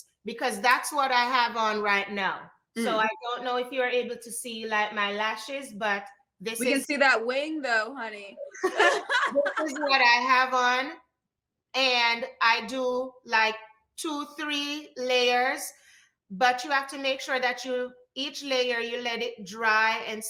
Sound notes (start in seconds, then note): 8.5 laughter